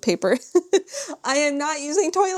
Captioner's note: laughs